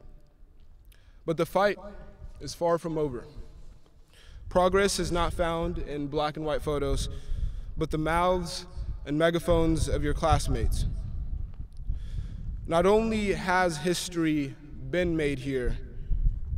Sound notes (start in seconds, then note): none